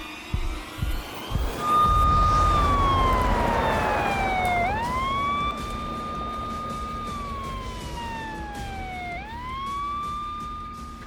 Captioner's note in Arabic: عويل صفارات الإنذار